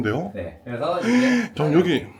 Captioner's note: gasps